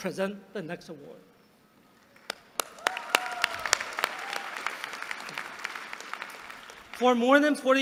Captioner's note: applause